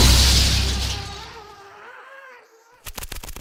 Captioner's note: screaming